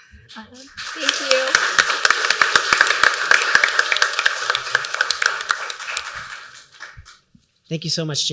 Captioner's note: applause